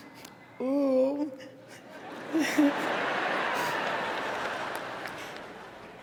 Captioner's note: laughter